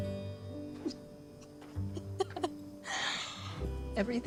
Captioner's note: sobbing